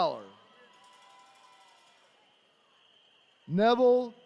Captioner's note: attendees cheering